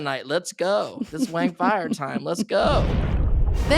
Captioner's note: Janet laughs